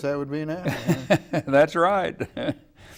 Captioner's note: laughing